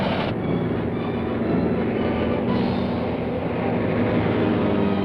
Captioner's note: airplane whirring; train rumbles; intense music